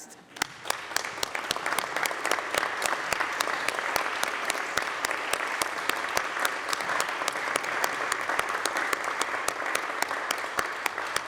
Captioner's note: applause